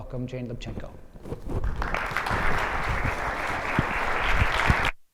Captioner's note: audience applauds